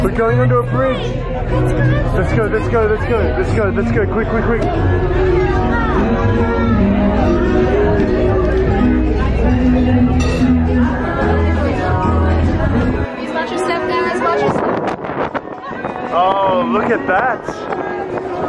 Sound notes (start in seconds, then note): 5.9 crowd murmuring; 5.9 singing; 15.2 air whooshing; 18.2 singing